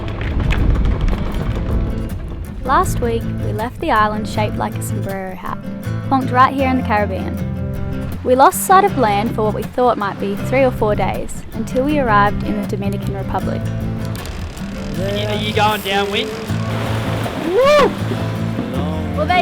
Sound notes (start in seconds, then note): 14.0 fishing rod clicking